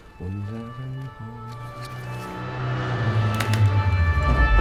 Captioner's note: vehicle approaching; siren blaring; tires screech